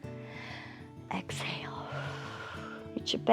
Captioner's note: inhales; exhales